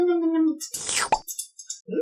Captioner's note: slurp. pop!